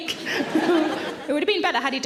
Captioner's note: audience laughs; laughs